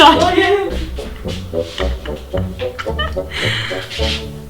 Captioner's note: continues laughing